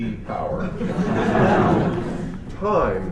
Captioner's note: laughter